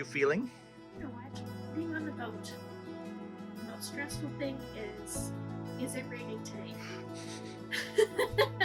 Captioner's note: laughing